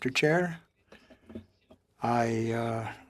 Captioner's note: speaking French